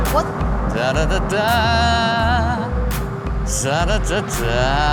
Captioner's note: Rob vocalizing